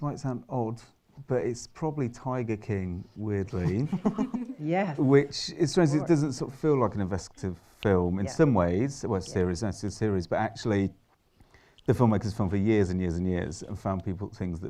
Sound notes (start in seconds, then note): 3.5 chuckles; 11.0 pause